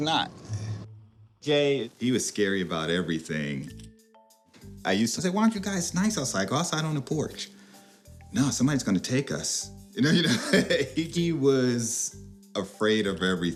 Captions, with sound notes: J, he was scary about everything. I used to say, "Why don't you guys-- it's nice outside, go outside on the porch." "No, somebody's gonna take us." [laughs] You know? You know? He was afraid of everything.